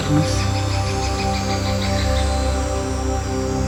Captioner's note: birds